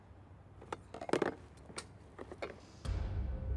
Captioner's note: objects clattering